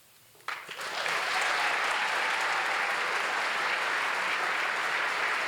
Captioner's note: applause